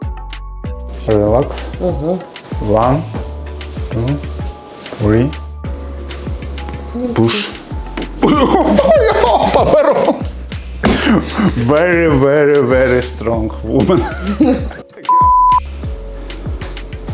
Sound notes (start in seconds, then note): 14.2 laughing